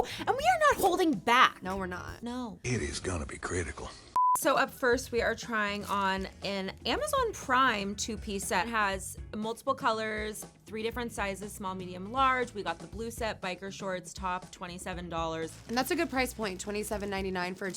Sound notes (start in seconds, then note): 4.1 screen beeps